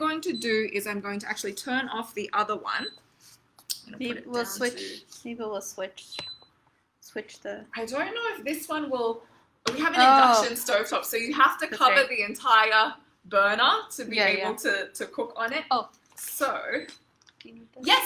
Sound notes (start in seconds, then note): 3.3 stove beeping